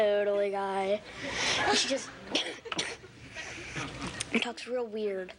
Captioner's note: coughs